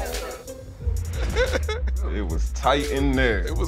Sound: laughter

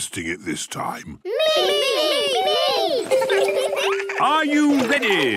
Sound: laughter

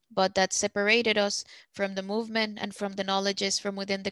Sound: speaking Spanish

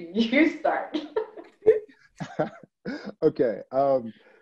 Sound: laughs

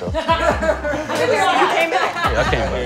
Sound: laughter

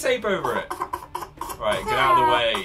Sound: fake cries

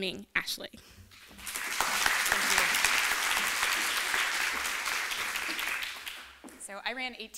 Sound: applause

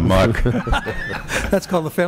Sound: laughter

